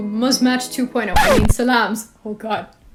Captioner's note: record scratch